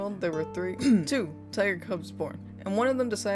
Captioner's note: cough